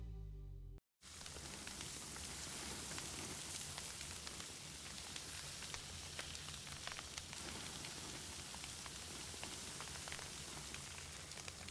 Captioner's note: sizzling steak on a grill